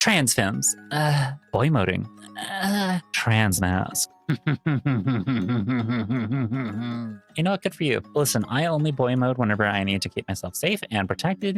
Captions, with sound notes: Trans fems. Boymoding. (woman groans) Trans mascs. (laughing) You know what, good for you. Listen, I only boy mode whenever I need to keep myself safe and protected,